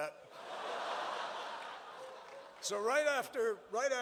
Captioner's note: laughter